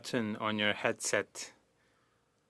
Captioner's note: speaking French